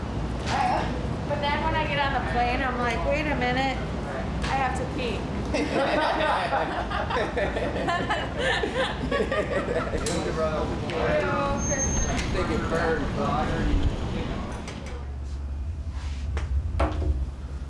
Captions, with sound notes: But then when I get on the plane, I'm like, wait a minute. I have to pee. [Laughing] >> Thank you! [Chatter]